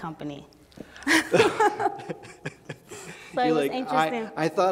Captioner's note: laughing